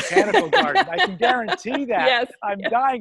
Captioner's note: laughs